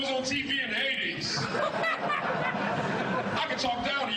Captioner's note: audience laughing